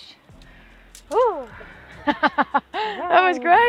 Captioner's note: laughs